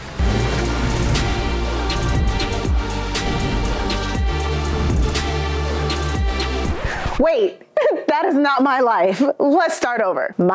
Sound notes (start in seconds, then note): 0.0 hip hop music; 6.5 record scratches